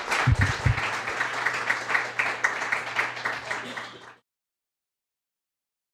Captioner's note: applause